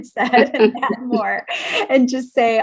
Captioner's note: laughs